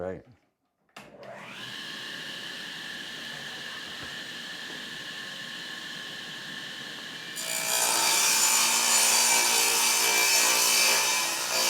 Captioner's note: saw Noise